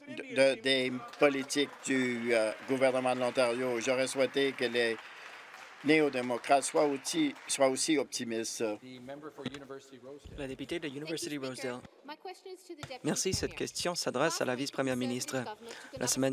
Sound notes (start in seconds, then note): 5.8 applause